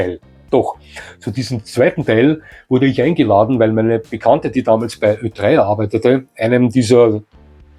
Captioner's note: a German radio station